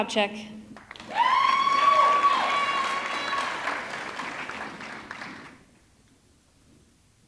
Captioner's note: audience clapping; audience cheering